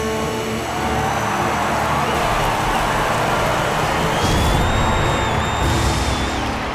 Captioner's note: cheering